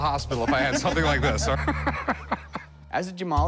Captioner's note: chuckling